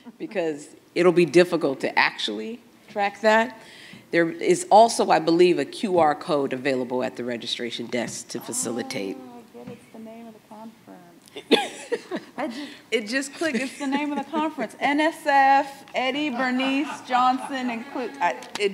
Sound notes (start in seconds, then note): 11.4 moderators laugh